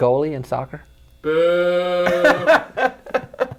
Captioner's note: boooo!